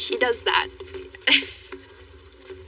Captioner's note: Trudee e laughs